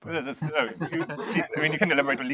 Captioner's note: laughter